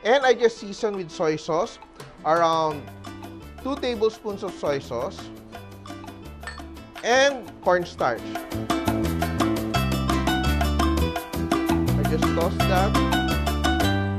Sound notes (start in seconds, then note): 6.4 clang